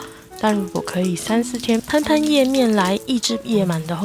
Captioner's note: sprinkling water